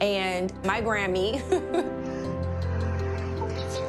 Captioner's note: laughs